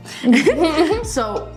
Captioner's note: both laughing